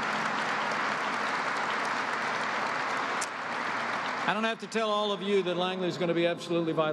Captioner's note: applause